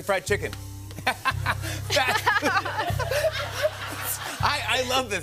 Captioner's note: laughter